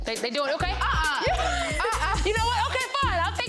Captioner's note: Young Ezee laughs